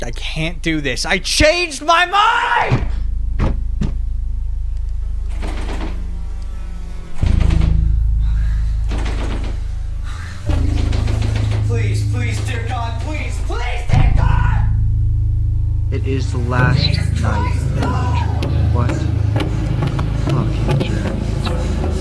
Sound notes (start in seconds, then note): 5.4 door rattles; 8.2 pants; 8.4 door rattles; 20.9 pants; 21.8 music intensifies